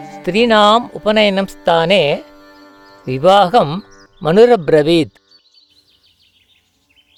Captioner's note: chants Sanskrit verse